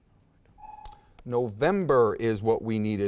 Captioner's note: timer buzzes